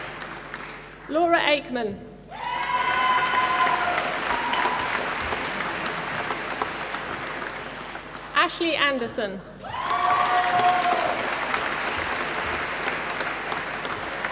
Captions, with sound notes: Laura Aikman. (APPLAUSE) Ashley Anderson. (APPLAUSE)